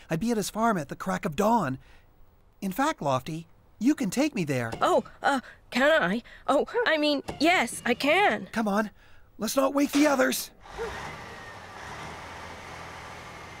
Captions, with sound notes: I'd be at his farm at the crack of dawn. In fact, Lofty, you can take me there! Oh, can I? Oh, I mean, yes, I can! Come on; let's not wake the others. ( Engine Running )